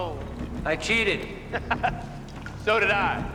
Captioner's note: Louis laughs